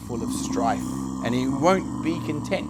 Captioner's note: skeleton growling